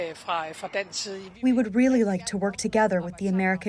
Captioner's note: through translator